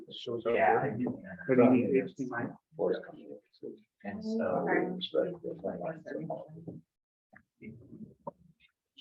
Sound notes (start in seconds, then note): 0.9 members chattering